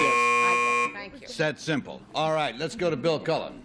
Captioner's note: buzzer